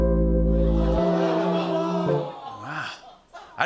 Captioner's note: audience groans